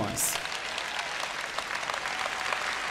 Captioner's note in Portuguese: plateia aplaudindo